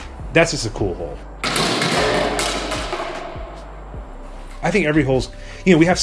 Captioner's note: disc clangs against the wall